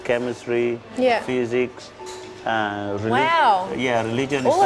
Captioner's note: voiceover